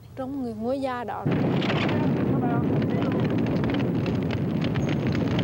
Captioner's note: flames and wood snapping